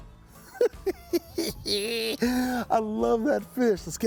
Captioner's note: chuckling